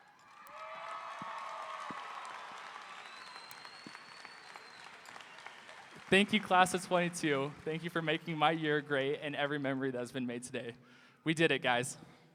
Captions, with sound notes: (audience applauding) (audience cheering) - Thank you class at '22. Thank you for making my year great. And every memory that's been made today, we did it guys.